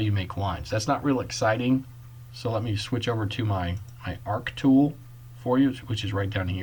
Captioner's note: click